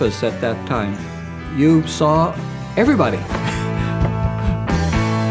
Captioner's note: laughs